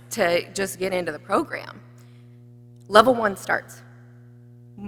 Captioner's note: none